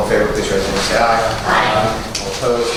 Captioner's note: A chorus of ayes